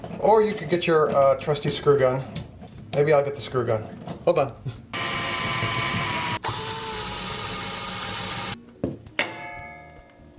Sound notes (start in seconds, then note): 4.9 drilling